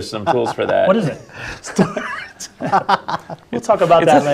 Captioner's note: laugh